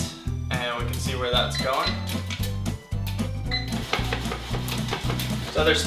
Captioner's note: beeping